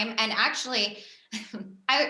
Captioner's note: chuckles